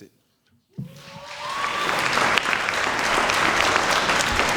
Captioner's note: applause